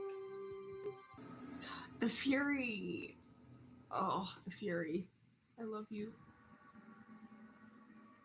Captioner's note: gasp